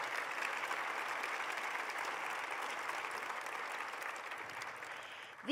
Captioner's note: applause